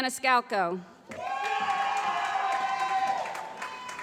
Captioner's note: applause